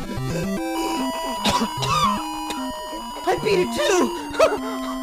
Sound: coughs

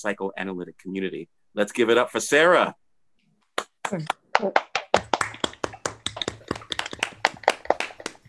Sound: applause

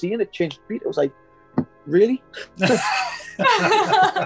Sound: thump; laughing

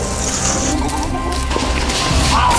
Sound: nails scraping; suspenseful music

